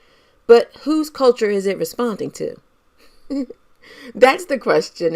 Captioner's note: laughs